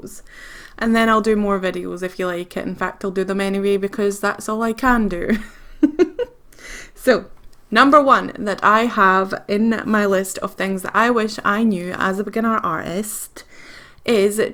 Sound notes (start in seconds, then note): 5.2 laughs